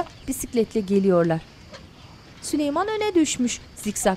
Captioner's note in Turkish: Kuş cıvıltısı sesleri